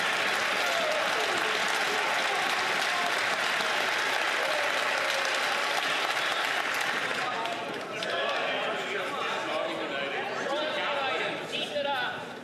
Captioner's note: some Applause